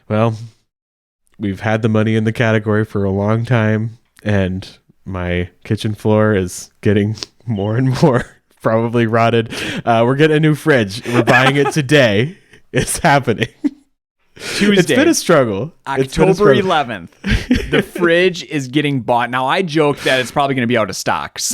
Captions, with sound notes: - Well, we've had the money in the category for a long time, and my kitchen floor is getting more (chuckling) and more, probably, rotted. We're getting a new fridge, and we're buying it today. It's happening. (laughs) - Tuesday. - It's been a struggle. - October 11th. - It's been a struggle. - The fridge is getting bought. Now, I joke that it's probably gonna be out of stock.